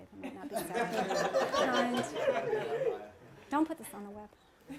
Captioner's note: laughter